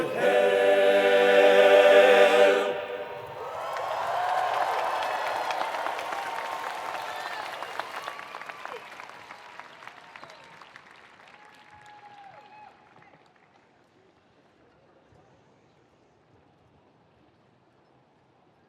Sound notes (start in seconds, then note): 3.0 attendees applauding; 3.5 attendees cheering